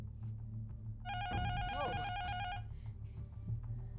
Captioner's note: intercom buzzer rings